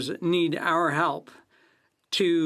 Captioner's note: speaking FRENCH